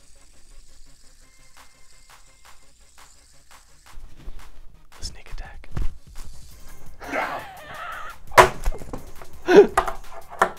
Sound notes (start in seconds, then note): 7.1 laughter